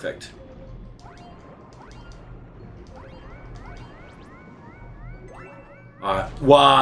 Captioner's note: game sounds; instrumental music